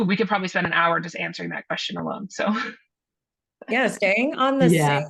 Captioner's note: chuckles